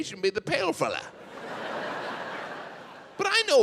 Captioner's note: audience laughs